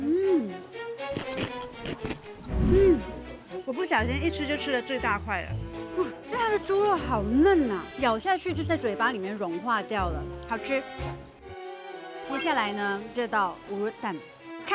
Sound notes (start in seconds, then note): 1.1 chew